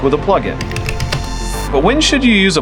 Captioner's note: typing